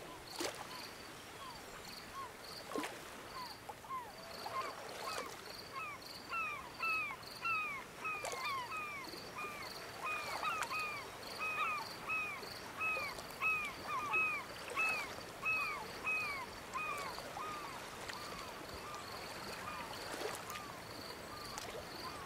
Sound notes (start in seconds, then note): 11.3 birds chirping; 18.2 light ocean ambience